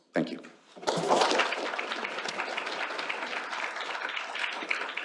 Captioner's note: applause